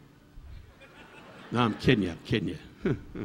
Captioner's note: audience laughing